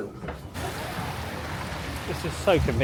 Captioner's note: water rushes